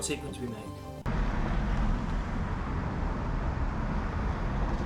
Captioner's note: cars rumbling